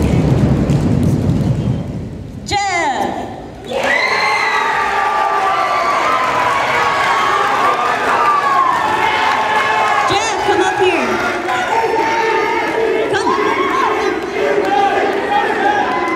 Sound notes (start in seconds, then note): 4.1 cheering